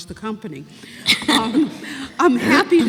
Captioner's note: laughter